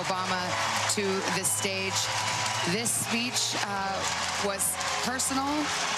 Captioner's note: applause